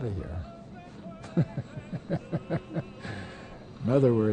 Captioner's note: laughs